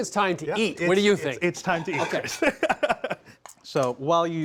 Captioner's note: laughs